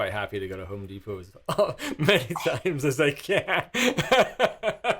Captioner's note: laughing